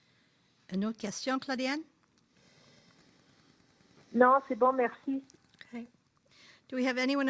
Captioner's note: speaking French